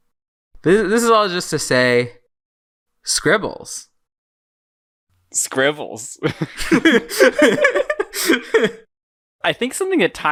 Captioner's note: both laugh